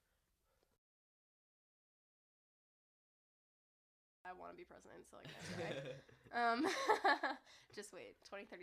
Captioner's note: laughing